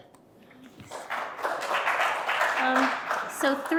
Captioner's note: audience applauding